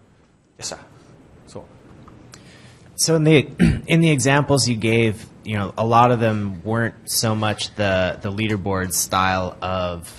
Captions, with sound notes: Yes, sir? - [Voiceover] So in the examples you gave, a lot of them weren't so much the leaderboard style of